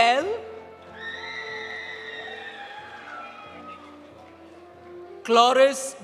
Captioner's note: audience cheering; audience applauding